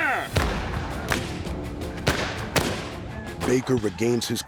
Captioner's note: gunfire